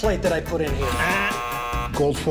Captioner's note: buzzer